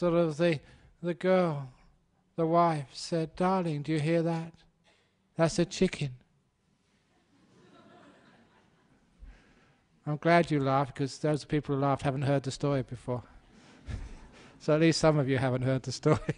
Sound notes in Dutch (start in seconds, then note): 7.2 publiek lacht